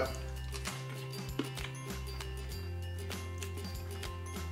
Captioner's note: crunching